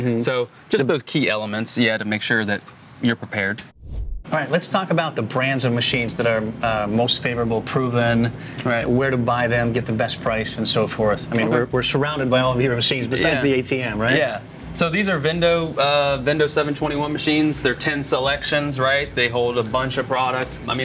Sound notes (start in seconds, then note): 3.7 air swooshing